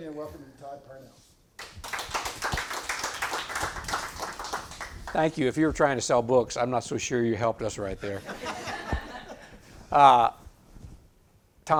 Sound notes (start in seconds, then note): 1.6 audience applauds; 8.1 audience laughs